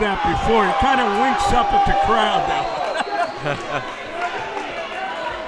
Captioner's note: laughing